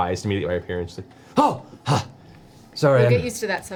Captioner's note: gasps